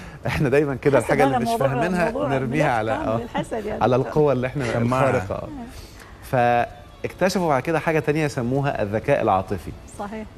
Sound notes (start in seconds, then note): 6.0 laighs!